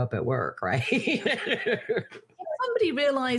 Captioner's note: laughs